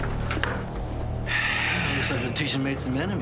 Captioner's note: sighing